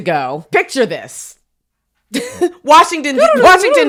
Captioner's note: laughs